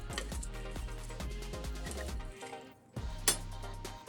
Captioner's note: sizzling